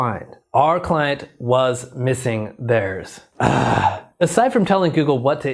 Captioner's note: groans